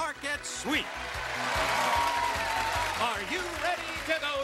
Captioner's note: cheers and applause